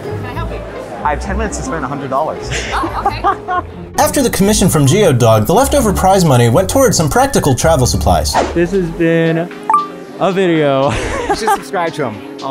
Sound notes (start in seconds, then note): 2.5 laughing